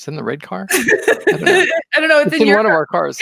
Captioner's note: laughing